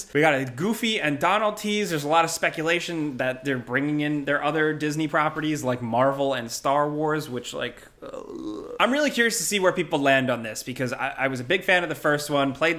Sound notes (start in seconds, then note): 7.9 groans